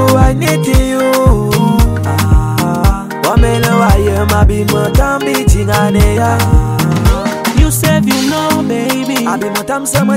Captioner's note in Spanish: aah